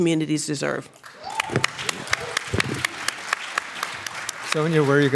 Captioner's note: applause